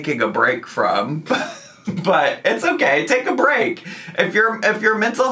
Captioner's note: laughing